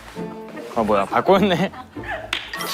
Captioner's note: هيهي